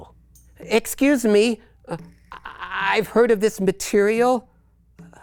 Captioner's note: stammers